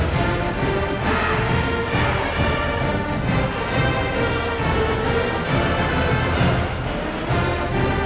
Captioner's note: crowd chanting